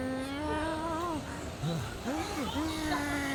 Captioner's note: breaths